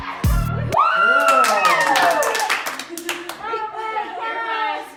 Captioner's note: screaming and clapping